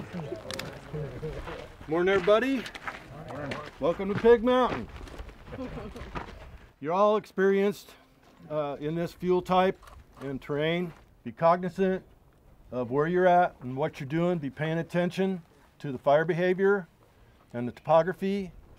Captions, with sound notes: - Morning everybody. - [Crowd] Morning. - Welcome to Pig Mountain. (laughter) You're all experienced in this fuel type and terrain. Be cognizant of where you're at and what you're doing. Be paying attention to the fire behavior and the topography.